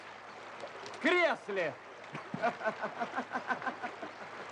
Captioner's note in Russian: смеется